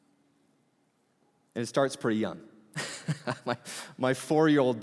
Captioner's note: laughing